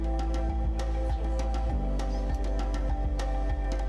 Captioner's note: background chatter/Music